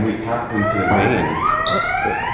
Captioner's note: siren wailing